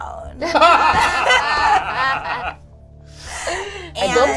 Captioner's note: all laugh